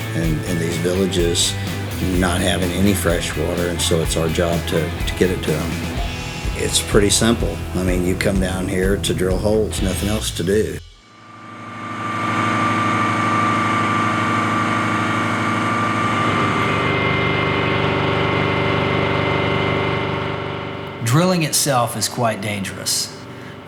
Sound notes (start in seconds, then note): 11.2 loud sounds of drilling machinery